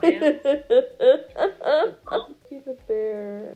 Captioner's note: hefty laughter